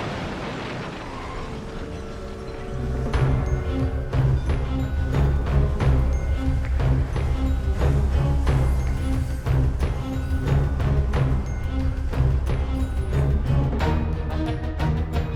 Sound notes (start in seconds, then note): 1.0 train whistle